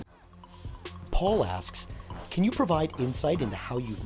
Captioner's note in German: Voice-over